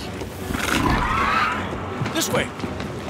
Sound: dinosaurs fighting

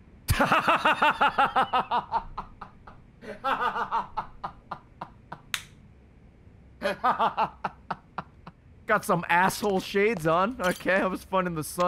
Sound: laughs

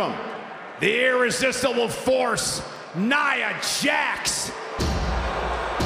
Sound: cheering and Applause

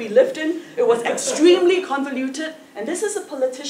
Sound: laugh

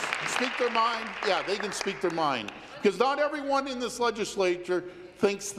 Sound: applause

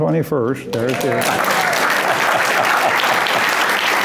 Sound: applause

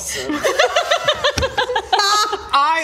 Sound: not-where-they-thought-that-was-going laughter

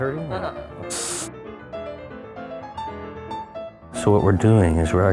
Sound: suction noises

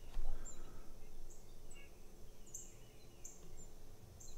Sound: birds chirping

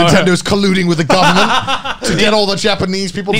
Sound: laughing

